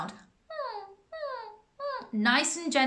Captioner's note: whimpering sound